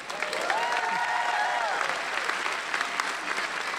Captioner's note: applauding